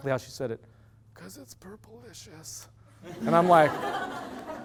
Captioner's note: loud laughter